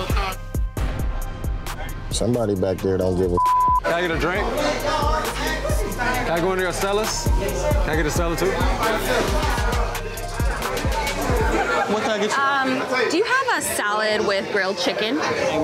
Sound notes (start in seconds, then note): 3.3 beep; 10.1 patrons chattering